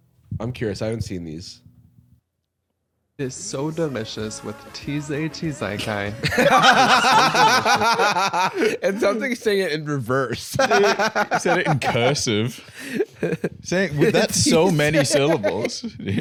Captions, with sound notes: I'm curious. I haven't seen these. It's so delicious with tee-zay-tee-zai-kai. (both laughing) It sounds like he's saying it in reverse. (laughs) He said it in cursive. That's so many syllables.